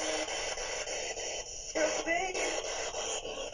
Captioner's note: woman murmuring